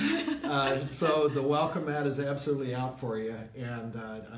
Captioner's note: laughs